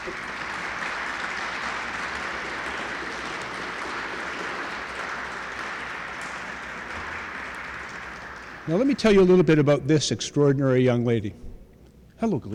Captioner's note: applause